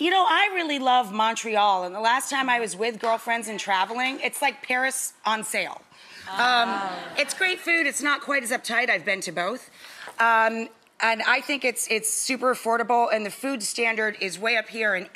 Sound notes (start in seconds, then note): 5.9 audience laughing